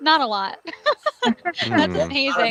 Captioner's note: laughing